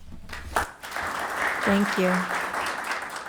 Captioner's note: audience applauding